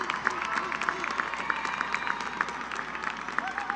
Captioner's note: cheering